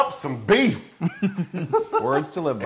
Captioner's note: laugh